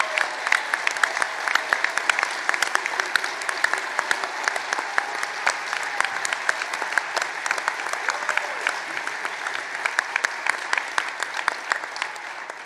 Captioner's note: applause